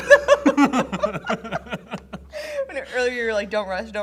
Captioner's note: both laugh